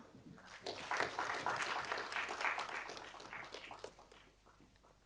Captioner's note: audience applauding